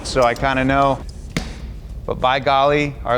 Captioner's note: tire taps